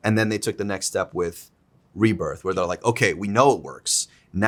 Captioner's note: none